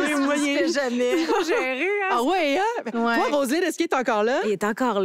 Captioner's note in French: rires